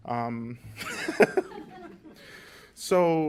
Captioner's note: laughter